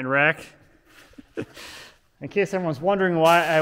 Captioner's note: chuckling